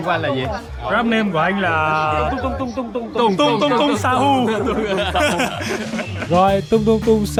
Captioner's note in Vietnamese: tiếng cười